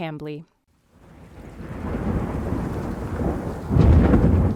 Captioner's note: rain and thunder